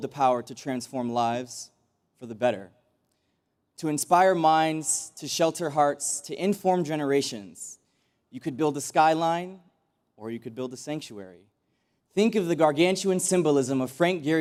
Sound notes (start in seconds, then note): none